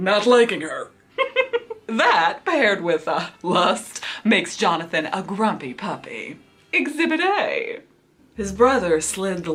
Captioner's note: laughs